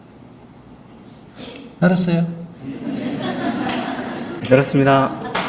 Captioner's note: audience Laughter